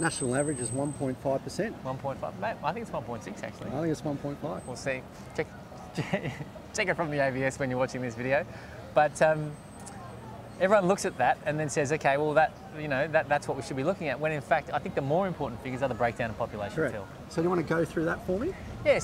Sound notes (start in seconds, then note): 5.9 laughs